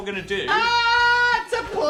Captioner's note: Dan yells